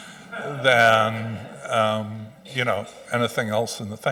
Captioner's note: audience chuckling